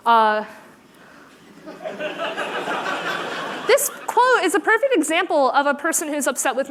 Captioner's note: laughter